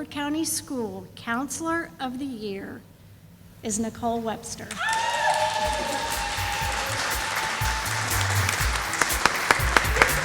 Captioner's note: sound of applause